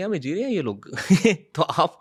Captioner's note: laughs